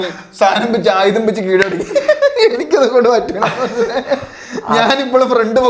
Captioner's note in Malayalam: പൊട്ടിച്ചിരി